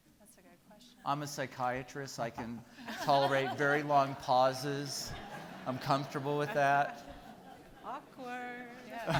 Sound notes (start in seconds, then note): 4.8 people laughing; 9.0 person laughing